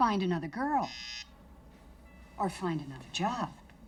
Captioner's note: phone buzzes